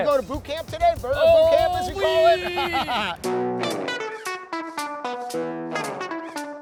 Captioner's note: laughs